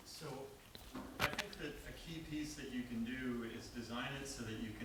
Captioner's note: voiceover